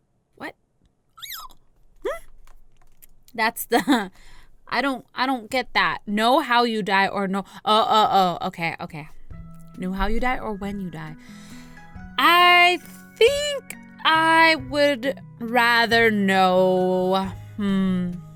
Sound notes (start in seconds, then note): 1.2 squeaks again; 4.0 giggle